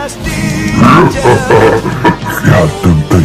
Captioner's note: Roar with laugh